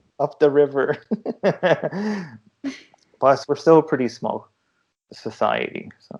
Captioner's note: laughter